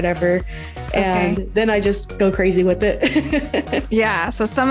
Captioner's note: laughs